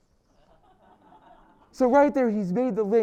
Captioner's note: laugh